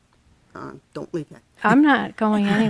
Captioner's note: chuckles